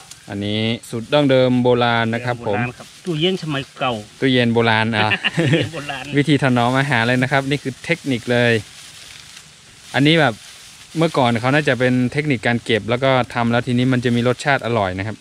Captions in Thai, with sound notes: อันนี้สูตรดั้งเดิมโบราณนะครับผม สูตรโบราณ ตู้เย็นสมัยโบราณครับ ตู้เย็นโบราณอ่ะ พ่อ (หัวเราะ) วิธีถนอมอาหารเลยนะครับ นี้คือเทคนิคเลย อันนี้แบบ เมื่อก่อนเขาน่าจะเป็นเทคนิกการเก็บแล้วก็มันจะมีรสชาติอร่อยนะครับ